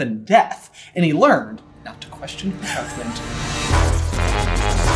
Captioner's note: giggling; intro Theme Music